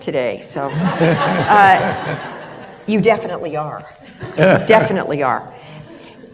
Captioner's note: laughter